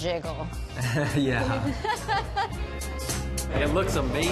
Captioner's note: laughing; laughs